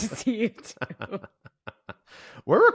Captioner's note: chuckles